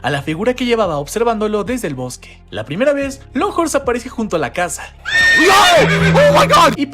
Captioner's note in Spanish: grito